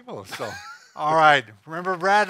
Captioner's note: laughing